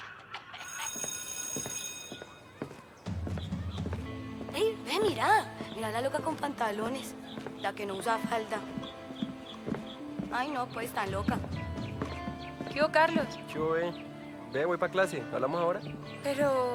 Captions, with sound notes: [school bell ringing] Look, it's crazy pants girl!! The girl who won't wear a skirt. Oh, she's so crazy! Hey Carlos. Hey. I'm going to class, talk to you later.